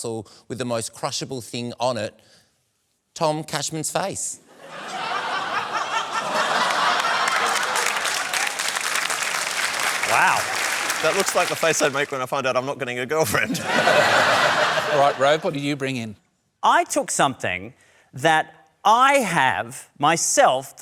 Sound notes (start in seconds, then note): 4.5 laughter; 7.8 applause; 13.3 laughter